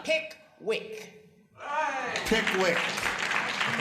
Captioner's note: applause